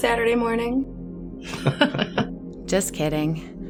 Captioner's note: chuckling